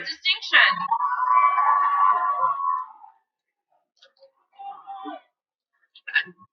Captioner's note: cheering